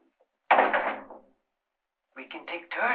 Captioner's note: door closes